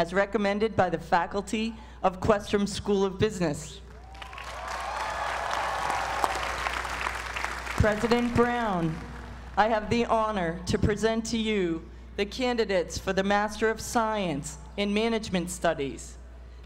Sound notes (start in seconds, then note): 3.9 applause